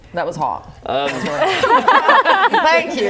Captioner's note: laughing